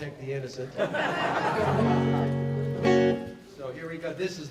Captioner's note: laughter